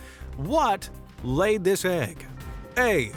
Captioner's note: in a ‘Game Show Host’ voice